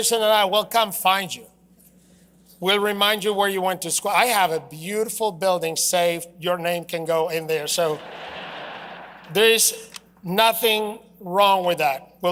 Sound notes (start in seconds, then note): 1.0 laughter